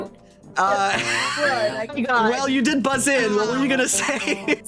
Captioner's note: laughing